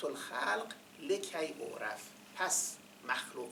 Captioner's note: quoting in Arabic